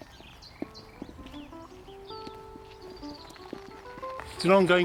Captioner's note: birds chirping; gentle instrumental music